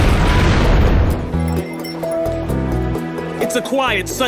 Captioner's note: crowd screaming; bells jingling